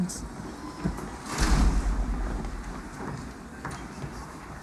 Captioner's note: door closes